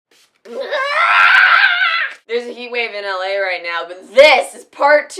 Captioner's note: guttural screeching